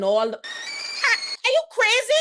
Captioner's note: door creaking